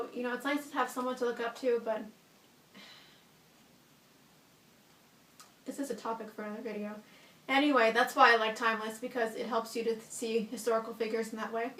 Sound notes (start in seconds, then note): 2.7 sighs